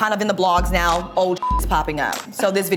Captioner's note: beep